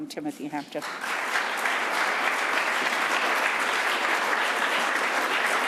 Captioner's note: audience applauding